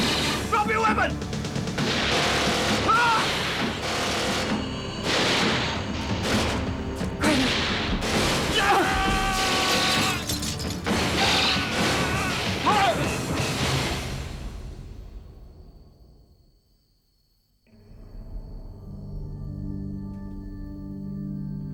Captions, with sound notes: Drop your weapons! (gunshots firing) (men shouting) (gunshots firing) (ominous music)